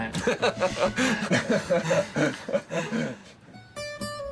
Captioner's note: all laughing; gentle music